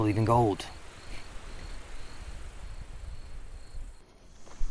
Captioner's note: insects chittering; footsteps crunching